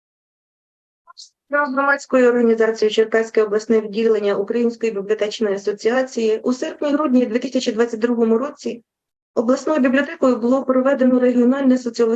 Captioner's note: foreign Language Spoken